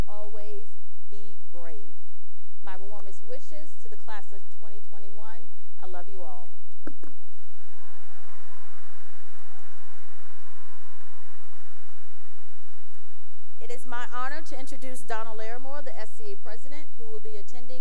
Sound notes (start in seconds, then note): 6.6 blows kiss; 7.3 cheering and applause